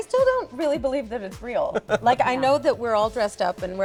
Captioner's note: laughs